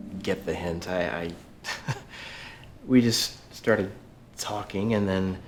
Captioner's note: laughs